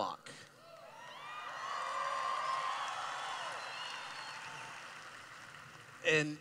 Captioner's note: cheering